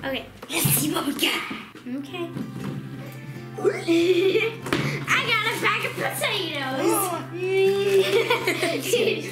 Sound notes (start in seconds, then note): 6.8 gasping; 7.4 laughing